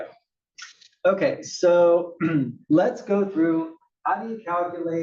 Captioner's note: cough